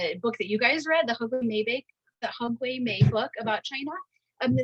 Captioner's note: speaking in Mandarin